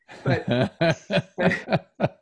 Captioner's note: laughs